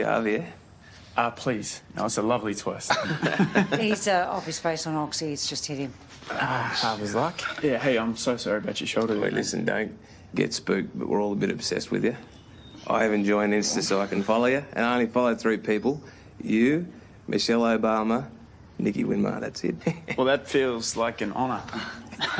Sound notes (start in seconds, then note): 19.7 laughs; 19.8 both laugh